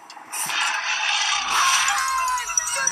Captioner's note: giant roar; teens screaming